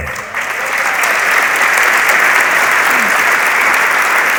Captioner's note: audience applauds